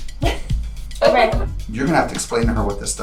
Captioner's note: laughter